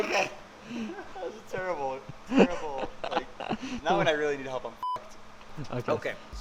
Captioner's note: beep